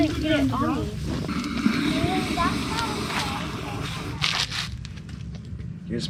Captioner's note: water noises